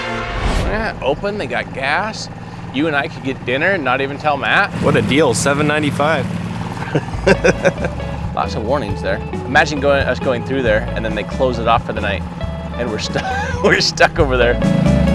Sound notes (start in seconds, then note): 1.6 motor boat whirring; 6.7 chuckling; 13.0 chuckling; 14.9 upbeat instrumental music continues